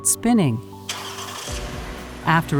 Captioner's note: engine whirs